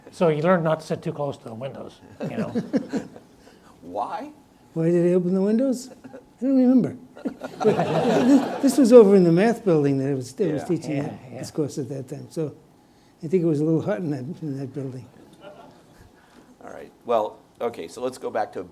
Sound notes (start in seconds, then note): 7.2 audience laughs